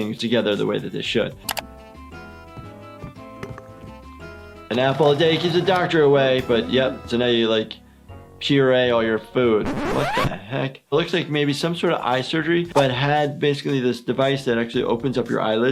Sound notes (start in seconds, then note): 1.2 cartoon-like music; 9.6 record scratches